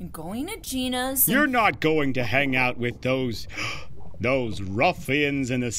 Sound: gasps

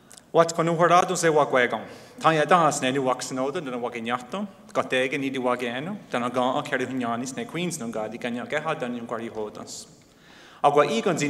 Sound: speaking in Mohawk

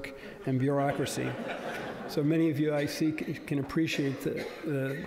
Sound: laughter

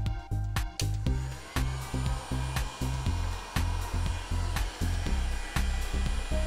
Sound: sound of heat gun powering up

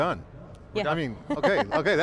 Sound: laughing

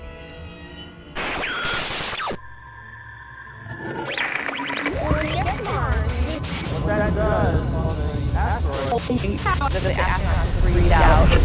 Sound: sound Effects

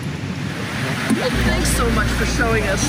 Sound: water thrashing

